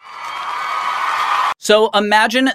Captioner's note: crowd cheering